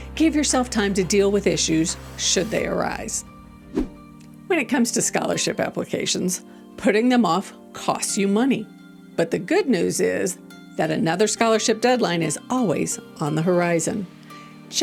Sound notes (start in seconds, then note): 2.0 transition whooshing; 3.5 gentle music